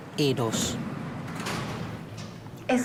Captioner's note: elevator door closing